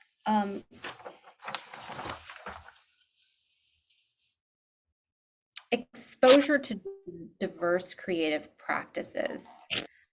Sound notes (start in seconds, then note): 0.6 paper shuffling